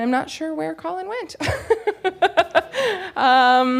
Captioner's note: laughs